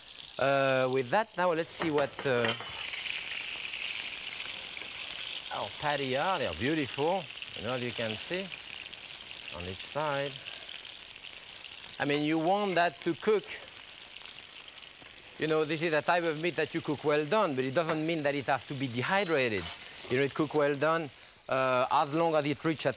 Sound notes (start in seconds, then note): 3.0 patties sizzling